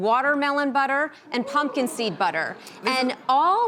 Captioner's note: crowd whispering